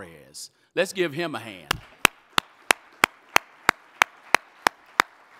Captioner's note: audience applauding